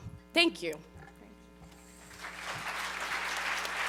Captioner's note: applause